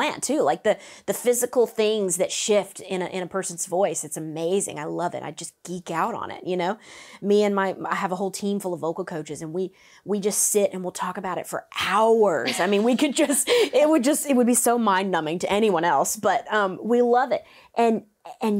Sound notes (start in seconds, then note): 12.4 laughs